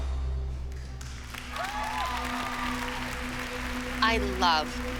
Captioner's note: applause